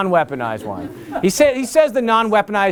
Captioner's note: laughter